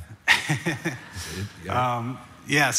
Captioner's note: audience laughs; laughs